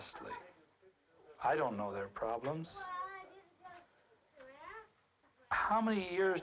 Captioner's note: diners chattering